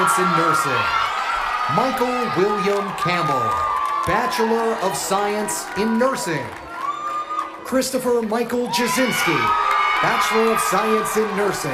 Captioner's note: cheers and applause